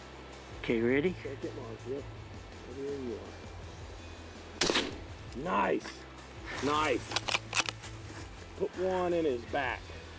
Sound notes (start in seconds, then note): 4.6 firing rifle